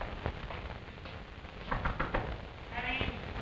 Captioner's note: knocking on door